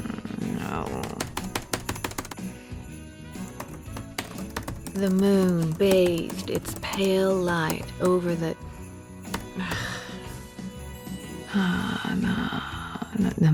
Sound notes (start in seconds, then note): 3.4 typing resumes; 9.2 typing